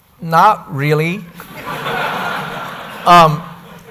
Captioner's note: laughter